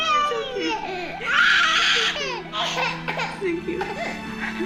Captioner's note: crying